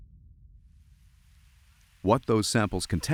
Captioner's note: particles falling and crackling in the air